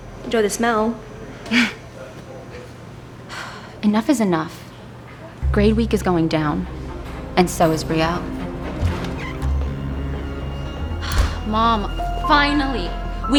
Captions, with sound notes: enjoy the smell. (Sighs) Enough is enough. Grade week is going down, and so is brielle. - (Door closes) - (Sighs) Mom, finally!